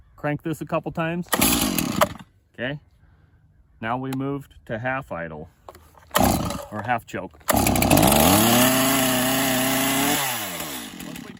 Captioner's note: engine sputtering; engine winding up; engine running smoothly